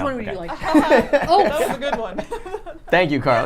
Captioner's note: laughs